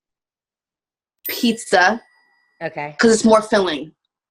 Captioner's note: dinging